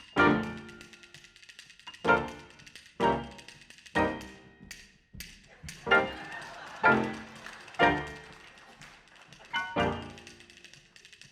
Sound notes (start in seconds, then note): 5.5 audience laughing